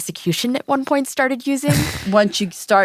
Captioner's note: laughs